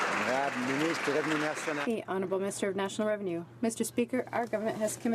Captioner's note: some Applause